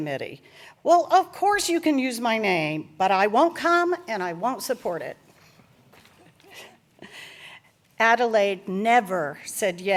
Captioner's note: laughter